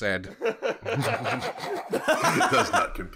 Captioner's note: laughter